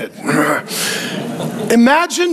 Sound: congregation chuckling

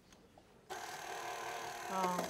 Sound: whirring

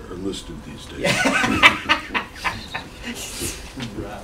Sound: laughter

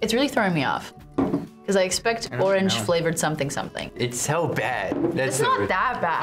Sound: none

